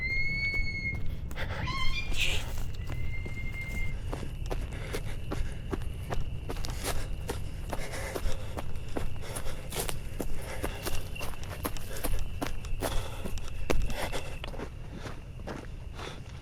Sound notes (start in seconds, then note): 0.1 chirping birds; 6.4 heavy breathing